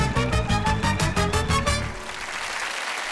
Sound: applause

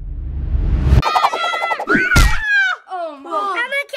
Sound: screams

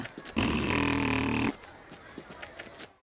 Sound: sheep blowing raspberry

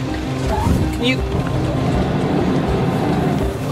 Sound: none

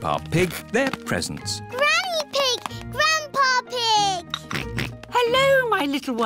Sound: oinks

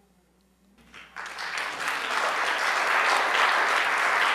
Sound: audience applauds

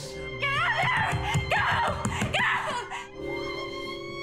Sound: shouting

